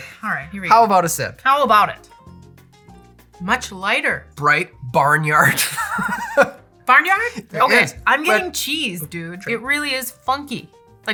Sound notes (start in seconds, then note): 5.4 laughter